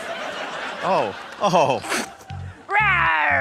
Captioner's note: sputters; spits